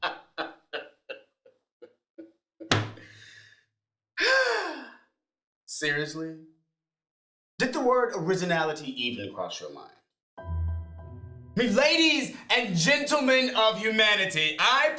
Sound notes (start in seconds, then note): 4.2 sighs; 10.4 slow tempo music